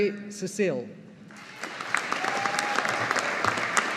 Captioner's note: audience applauding